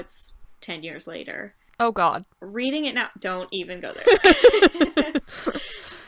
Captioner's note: laughter